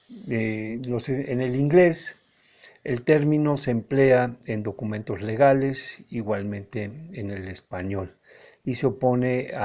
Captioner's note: also in Spanish